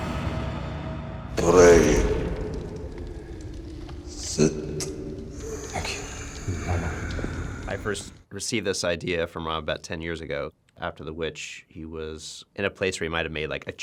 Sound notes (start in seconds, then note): 4.1 wheezing